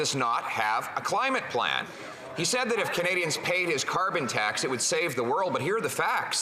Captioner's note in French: voix de l'interprète